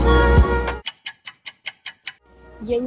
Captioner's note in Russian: тиканье часов